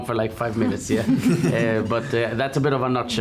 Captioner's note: laughing